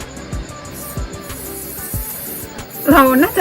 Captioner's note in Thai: เสียงพ่นสเปรย์